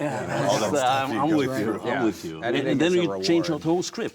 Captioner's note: overlapping chatter